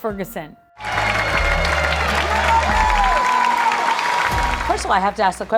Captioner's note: audience clapping and cheering